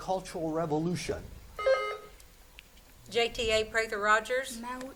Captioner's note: buzzer beeps